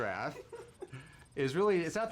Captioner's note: laughs